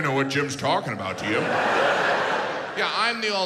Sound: audience laughs

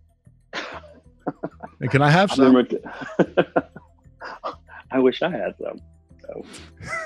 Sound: laughter lAUGHTER LAUGHTER

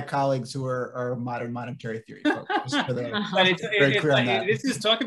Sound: laughing

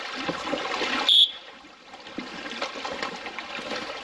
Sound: sound of electronic whistle to keep bears away

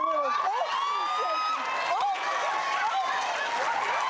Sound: audience cheers

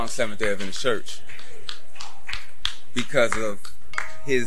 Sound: applause

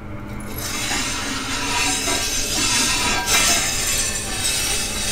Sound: grinder scraping

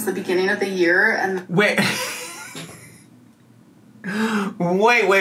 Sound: laughs

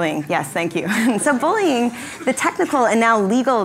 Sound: laugh

